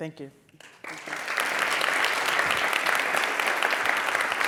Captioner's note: audience claps